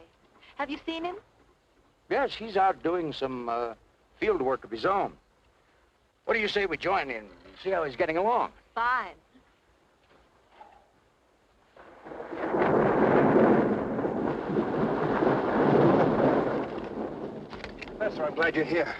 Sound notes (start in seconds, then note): 11.6 thunder rumbling